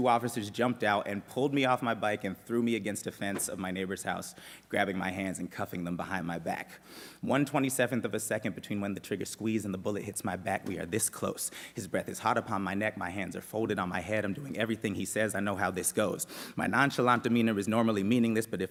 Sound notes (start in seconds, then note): none